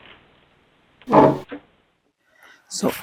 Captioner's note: thump